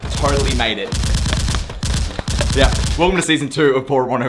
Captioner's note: shots firing